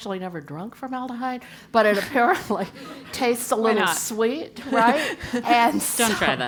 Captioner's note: laugh